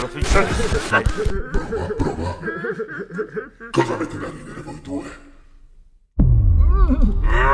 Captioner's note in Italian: hehehehehe